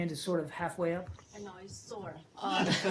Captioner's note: laughter